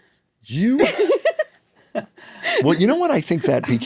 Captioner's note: laughs